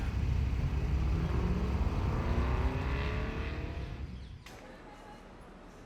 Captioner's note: car engine roaring in the distance